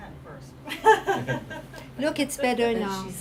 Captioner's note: laughing